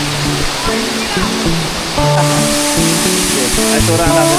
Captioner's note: laugh